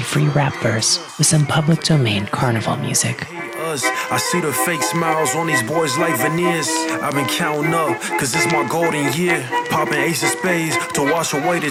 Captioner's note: applause